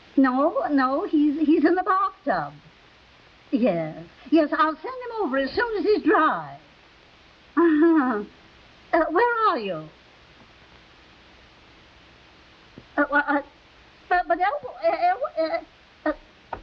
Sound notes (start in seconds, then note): 13.3 Veta stammering